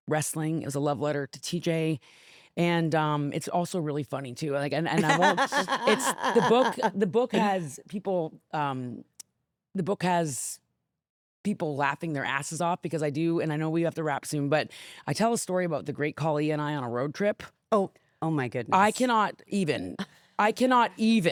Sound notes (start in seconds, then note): 5.0 laughs